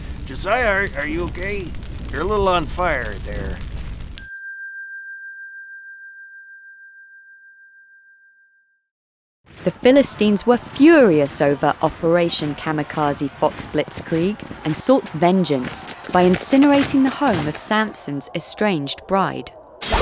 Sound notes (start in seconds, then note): 4.2 bell dings